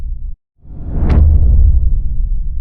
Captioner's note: powerful whoosh sound